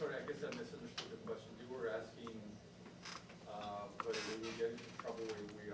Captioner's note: chair creaking